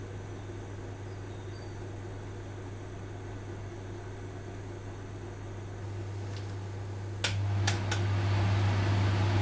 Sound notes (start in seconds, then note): 2.3 sizzling sounds